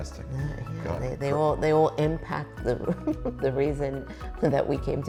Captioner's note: chuckling